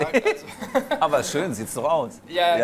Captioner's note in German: lacht